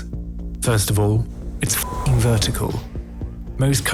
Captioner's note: beep